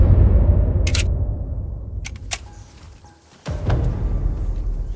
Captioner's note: gun reloads; suspenseful music